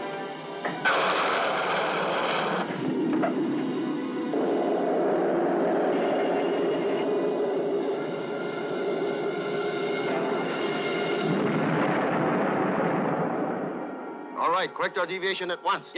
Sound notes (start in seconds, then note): 11.0 explosion booming